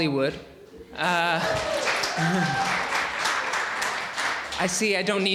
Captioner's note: audience applauding